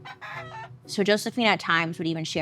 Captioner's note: rooster croaking